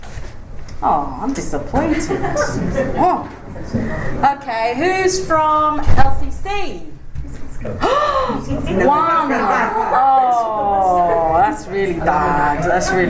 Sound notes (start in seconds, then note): 1.8 laughter; 7.8 gasp